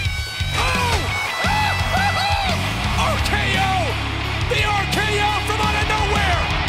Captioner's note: laugh